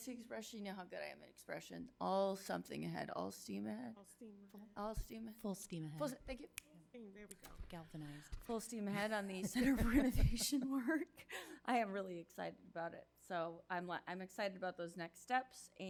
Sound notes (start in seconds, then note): 9.1 chuckles